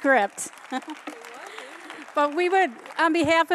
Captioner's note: applause